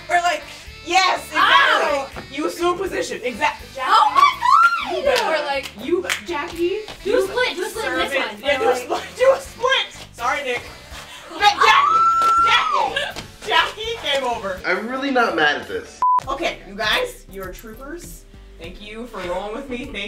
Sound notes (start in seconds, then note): 11.5 screams